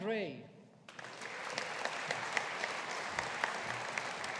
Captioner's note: audience applauding